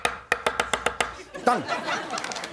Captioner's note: laughter